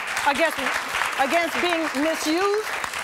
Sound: audience applause

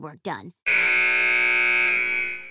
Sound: buzzer

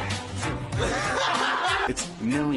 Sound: both laughs

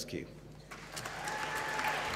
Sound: applause

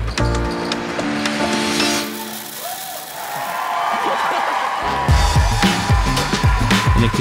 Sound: upbeat music; crowd cheering

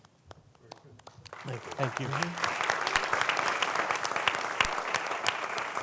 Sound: applause

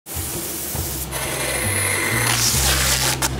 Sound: machines whirring

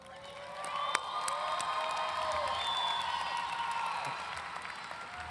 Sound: audience cheering and applauding

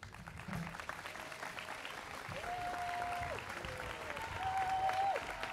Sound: students clapping

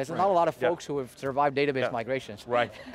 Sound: laughs

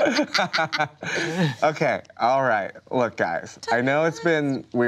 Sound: laughs

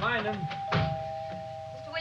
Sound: doorbell ringing

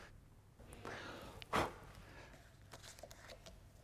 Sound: puff of breath

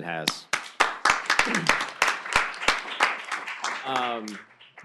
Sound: applause

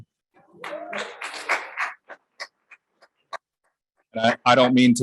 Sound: applause

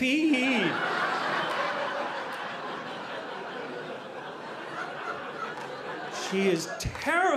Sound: audience laughing

